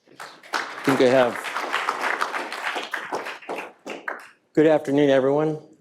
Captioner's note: audience applauding